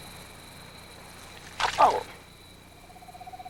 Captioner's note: splash